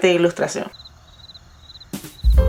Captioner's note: crickets